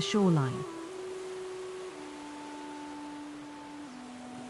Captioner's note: waves lapping